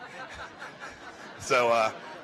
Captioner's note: laughter